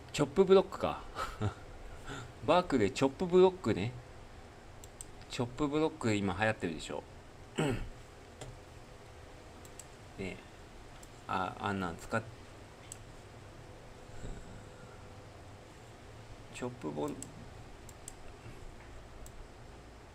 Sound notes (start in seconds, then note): 12.9 clears throat